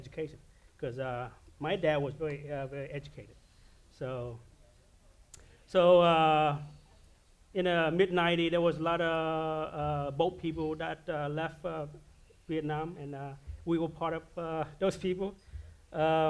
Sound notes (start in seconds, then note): none